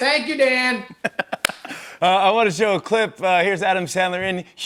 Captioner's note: laughing